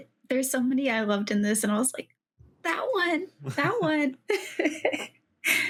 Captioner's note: laughs